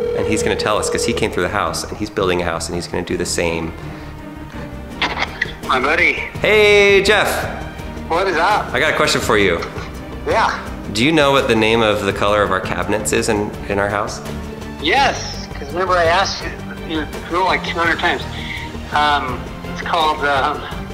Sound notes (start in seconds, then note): 0.0 phone ringing; 5.1 phone scraping